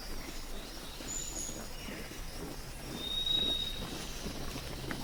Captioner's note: steps thudding